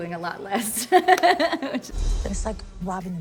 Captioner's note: laughs